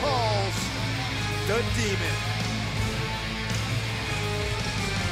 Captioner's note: crowd cheering